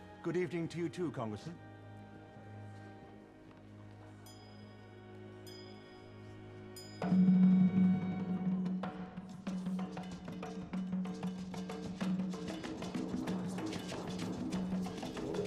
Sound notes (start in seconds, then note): 4.9 bell rings; 7.0 drumbeats